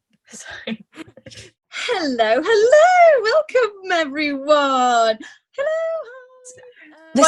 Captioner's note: Sketch audio plays; laugh